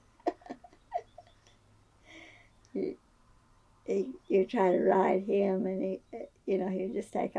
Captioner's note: laughs